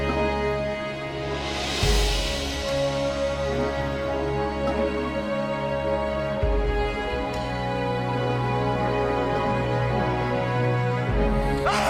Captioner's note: screaming